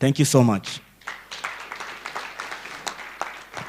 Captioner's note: applause